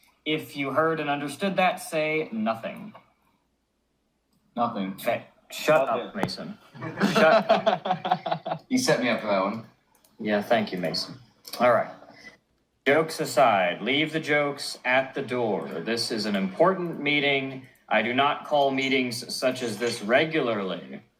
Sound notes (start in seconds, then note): 6.7 laughter